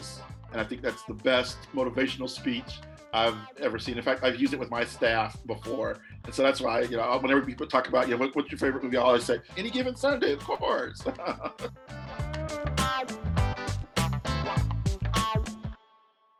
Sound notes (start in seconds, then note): 10.9 chuckling